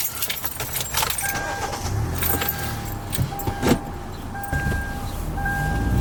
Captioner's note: keys jingling; car beeping; engine revving